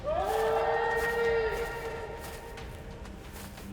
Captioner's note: screaming